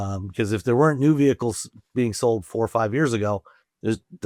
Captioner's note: none